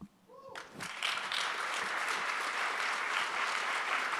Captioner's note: audience applauds